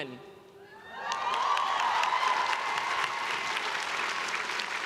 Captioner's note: crowd cheering